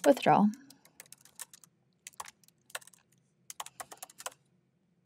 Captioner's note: keyboard clacking